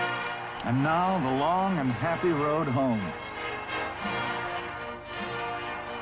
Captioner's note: voiceover